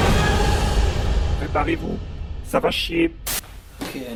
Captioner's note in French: Voix trafiquée